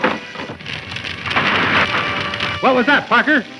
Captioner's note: door cracks; fire crackles; crash